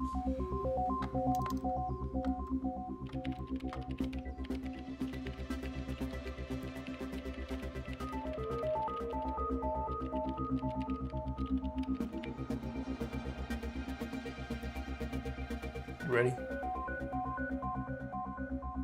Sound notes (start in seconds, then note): 0.9 upbeat electronic music playing; 3.0 keyboard clacking